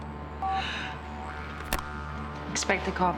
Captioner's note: phone beeping